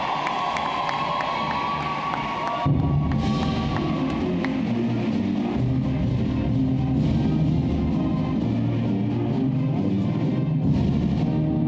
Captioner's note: applause